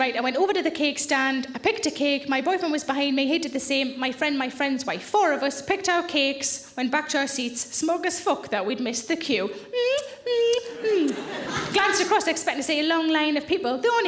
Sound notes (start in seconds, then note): 10.7 lips smacking